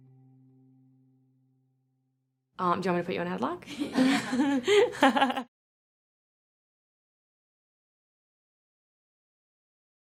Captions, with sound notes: Do you want me to put you in a headlock? [laughing]